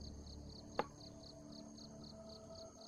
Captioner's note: glass thuds